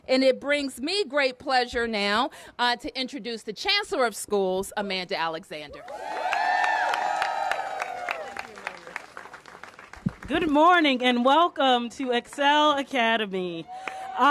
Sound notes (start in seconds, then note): 8.5 applause